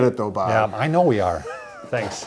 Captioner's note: chuckles